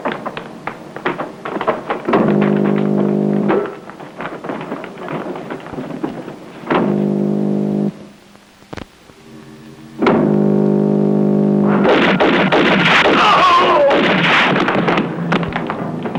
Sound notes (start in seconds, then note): 2.3 buzzing; 11.6 gun firing; 11.7 cries out